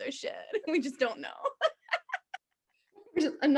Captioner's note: both laughing